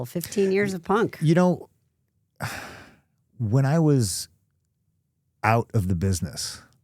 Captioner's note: sighs